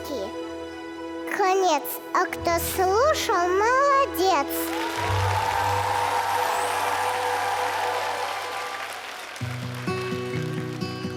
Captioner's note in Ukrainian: оплески